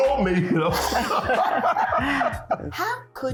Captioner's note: laughing